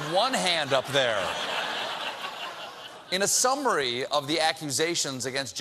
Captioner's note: laughter